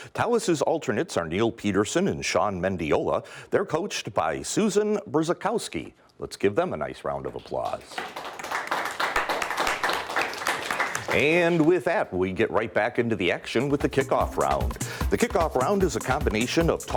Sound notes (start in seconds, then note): 7.4 applause